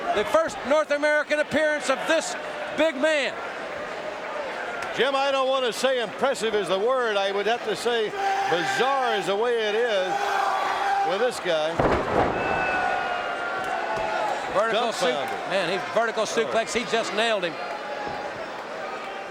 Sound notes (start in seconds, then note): 12.2 wrestlers thudding